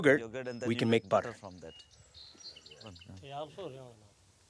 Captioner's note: speaking foreign language